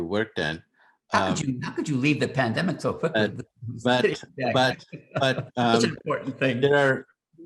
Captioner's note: laughs